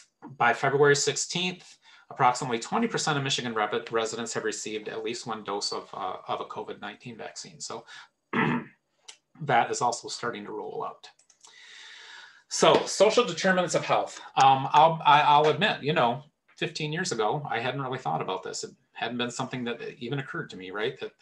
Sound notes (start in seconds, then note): 11.1 mouse clicks